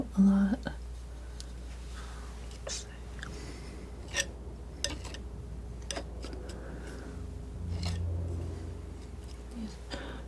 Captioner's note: scraping